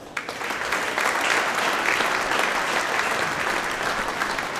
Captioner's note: audience applauding